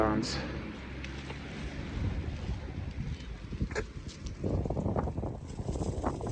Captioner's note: spits on the ground